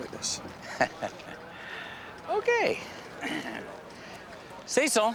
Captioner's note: laughs